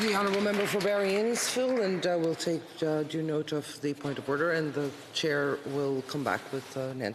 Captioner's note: applause